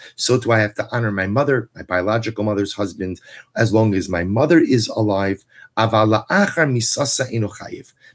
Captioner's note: Hebrew; Hebrew